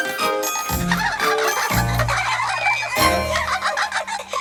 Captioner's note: laughter